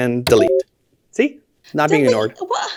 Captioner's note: message blips